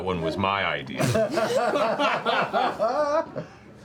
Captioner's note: laughter